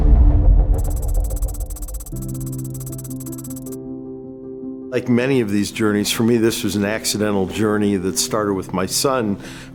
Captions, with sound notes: (keyboard tapping) (gentle music) - Like many of these journeys. For me, this was an accidental journey that started with my son